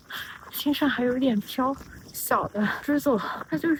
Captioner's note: fine, dense raindrops 💧